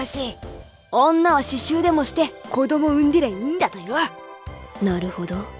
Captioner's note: whisper